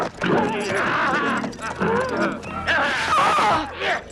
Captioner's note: cavalier shouts